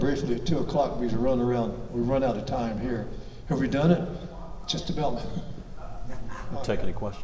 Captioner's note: laughs